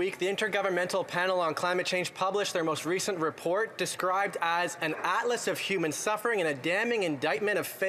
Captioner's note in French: voix de l'interprète